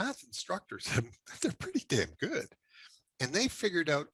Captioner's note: chuckles